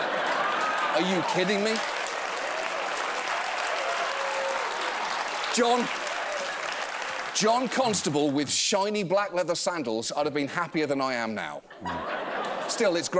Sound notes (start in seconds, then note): 5.6 applause